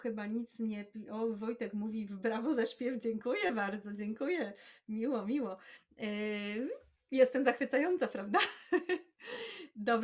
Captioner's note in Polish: śmiech